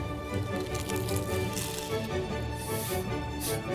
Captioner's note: crunching